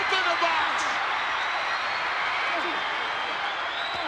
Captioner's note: crowd cheers